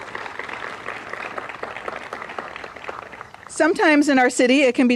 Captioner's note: applause